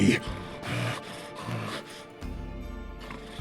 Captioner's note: panting